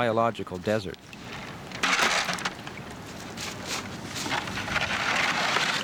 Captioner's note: bucket crashing; ice scraping